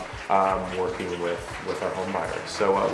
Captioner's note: audience clapping